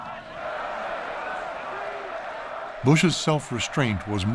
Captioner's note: clamoring